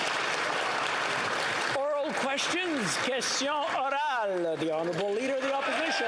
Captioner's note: speaking the greek language; applause